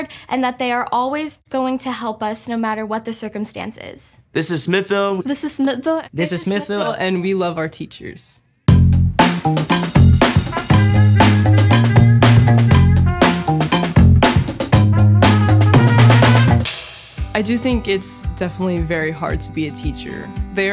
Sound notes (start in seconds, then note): 8.4 upbeat music; 9.6 bell ringing